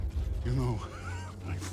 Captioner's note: laugh